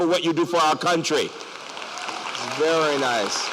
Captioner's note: applause